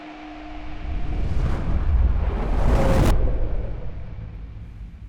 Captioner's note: heavy swoosh